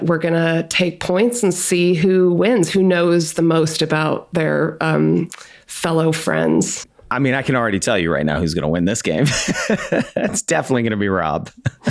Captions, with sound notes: and we're gonna take points and see who wins, who knows the most about their fellow friends. - I can already tell you right now who's gonna win this game. (laughs) It's definitely gonna be Rob.